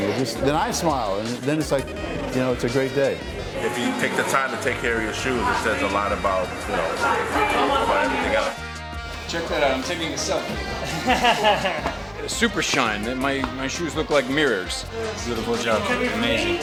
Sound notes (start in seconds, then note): 10.3 laughing